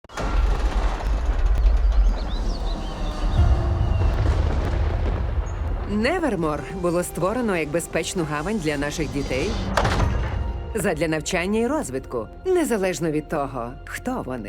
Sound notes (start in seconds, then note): 0.0 thunder crashes; 2.2 gate creaks; 3.3 mysterious music plays; 3.3 thunder crashes